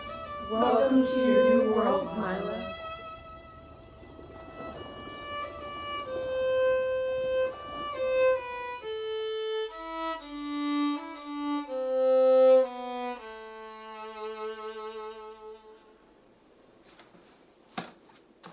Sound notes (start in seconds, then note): 4.3 birds chirping; 4.3 slow paced music